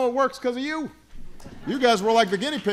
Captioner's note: laughter